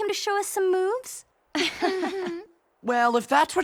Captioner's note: laughing